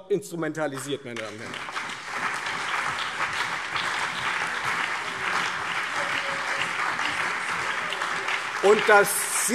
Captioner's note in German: Beifall Freie Demokraten, CDU, BÜNDNIS 90/DIE GRÜNEN, SPD und DIE LINKE